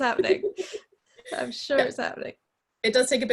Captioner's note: both laughing